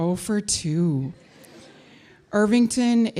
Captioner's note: audience laughing